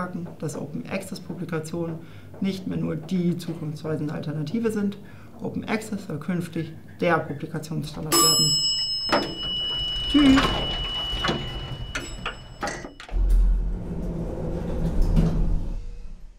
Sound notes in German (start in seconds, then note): 7.9 Fahrstuhl-Gebimmel